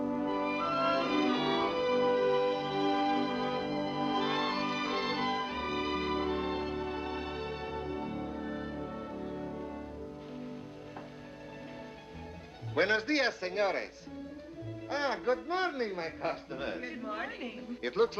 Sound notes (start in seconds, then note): 12.8 speaking spanish